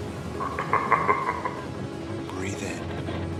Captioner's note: garbled menacing laugh